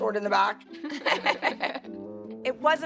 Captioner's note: laughing